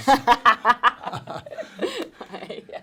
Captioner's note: laughs